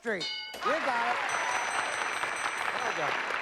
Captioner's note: applause